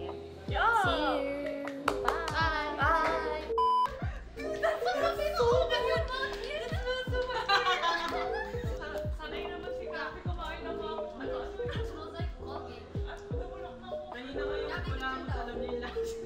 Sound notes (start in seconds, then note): 3.8 laughing